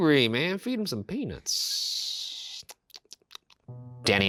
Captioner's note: smacking lips